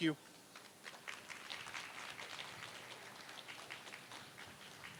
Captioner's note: applause